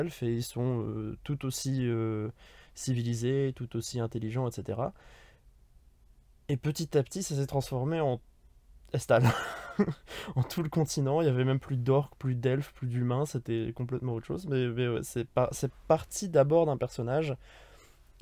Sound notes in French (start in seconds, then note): 9.2 Rires